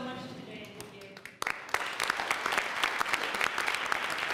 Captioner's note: applause